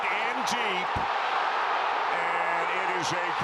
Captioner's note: cheering